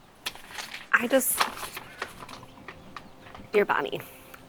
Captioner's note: paper rustling